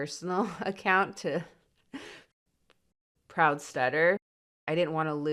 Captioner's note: chuckles